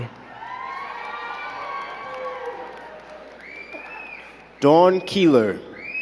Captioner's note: crowd cheering and clapping